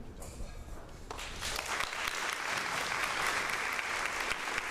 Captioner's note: crowd applauds